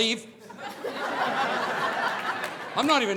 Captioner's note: audience laughing